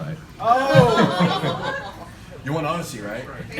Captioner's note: laughter